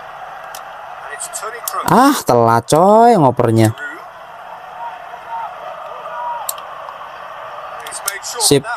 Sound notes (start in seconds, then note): 4.3 applause